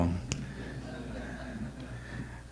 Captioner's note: audience laughter